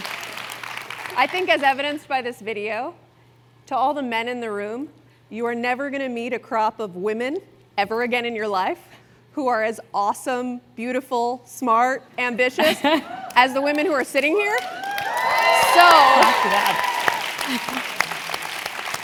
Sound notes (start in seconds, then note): 0.0 applause; 13.6 applause